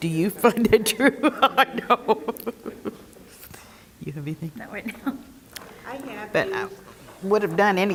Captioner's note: laugh